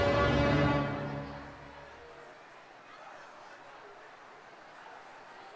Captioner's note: people chattering